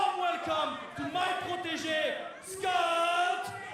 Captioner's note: speaking in foreign language